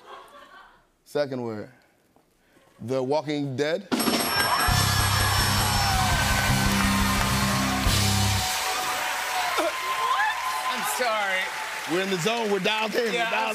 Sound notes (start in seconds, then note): 3.5 bell dinging; 5.0 cheers and applause